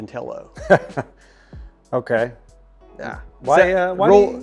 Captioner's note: laughs